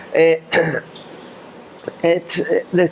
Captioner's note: clears throat